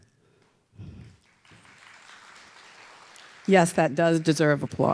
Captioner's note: audience applauding